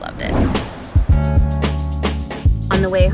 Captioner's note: scene whooshing; upbeat music